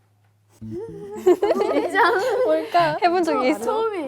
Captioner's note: awkward laugh